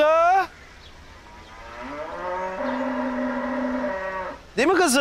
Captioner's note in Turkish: İnek möleme sesi